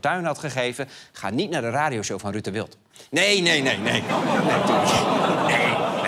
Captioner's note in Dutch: gelach